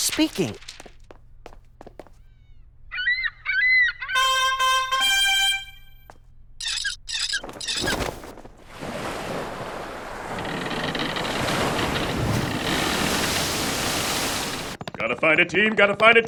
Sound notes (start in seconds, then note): 2.9 seagulls cry, bugles plays; 6.6 squeaking of rope on pulley; 7.4 sails flapping in wind, waves lapping; 10.3 ship creaks, waves crash